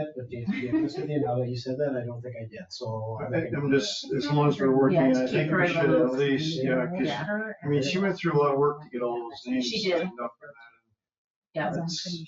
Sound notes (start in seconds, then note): 6.2 people chatter